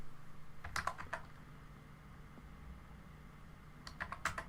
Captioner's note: keyboard typing